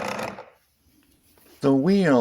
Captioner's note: grinding sound